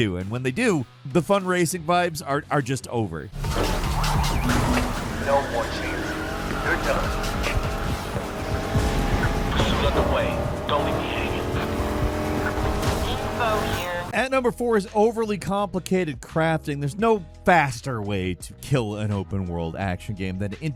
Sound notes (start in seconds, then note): 3.6 cars crashing; 3.6 sirens wailing; 8.0 tires squealing; 12.2 car revving